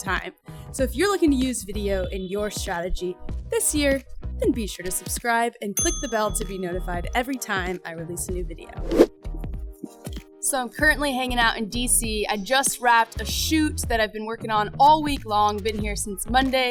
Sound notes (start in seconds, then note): 5.8 bell dings; 8.8 swoosh sound